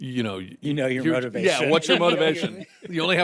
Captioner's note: all chuckle